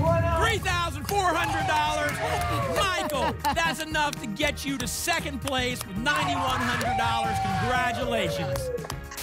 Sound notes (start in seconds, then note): 1.6 applause and cheering